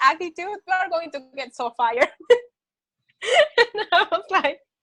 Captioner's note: laughs